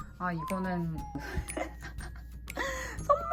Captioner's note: embarrassing laugh